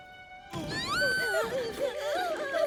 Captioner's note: shouting; whimpering